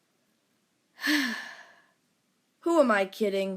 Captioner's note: sigh